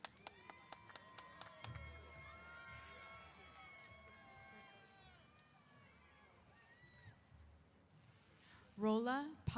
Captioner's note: applause & Cheers